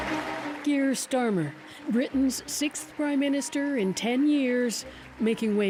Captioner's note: applause